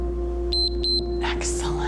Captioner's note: timer beeps